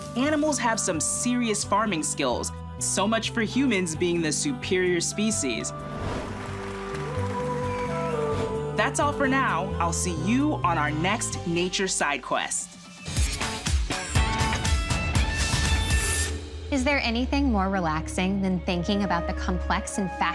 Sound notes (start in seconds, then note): 8.7 clapping and cheering